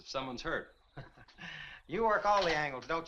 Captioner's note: Compton chuckles